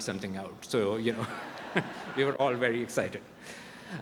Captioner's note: chuckles